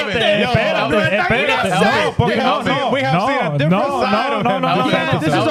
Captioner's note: laughing; speaking In Foreign Language